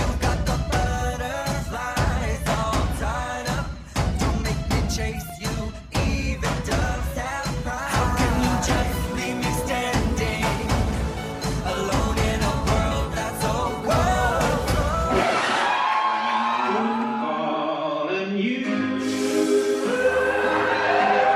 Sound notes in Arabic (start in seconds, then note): 15.7 ينفجر مدفع القصاصات، وتتوقف الموسيقى; 21.1 هتاف الجمهور